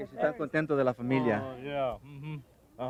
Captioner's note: speaking spanish